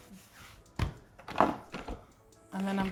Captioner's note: hands rustle; hands tap